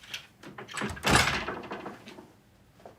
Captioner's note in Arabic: يغلق الباب